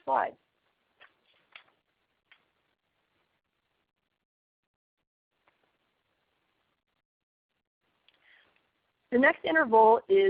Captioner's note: silence